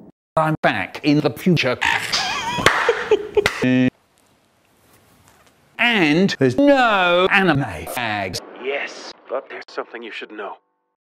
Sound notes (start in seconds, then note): 1.9 Jontron laughing